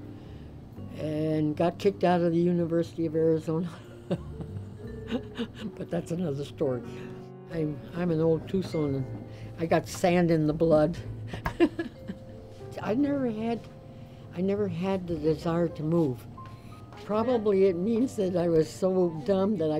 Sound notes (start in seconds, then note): 3.8 chuckling; 11.3 giggling